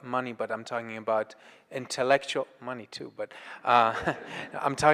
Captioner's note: laughs